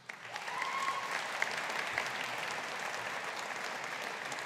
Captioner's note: audience applauding